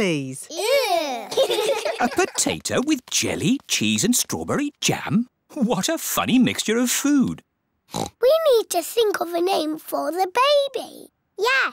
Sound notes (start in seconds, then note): 0.5 giggling; 7.9 oinks